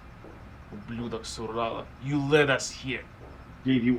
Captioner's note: speaking foreign language